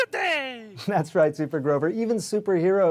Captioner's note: chuckling